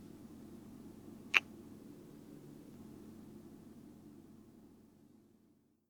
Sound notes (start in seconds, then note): 1.1 kiss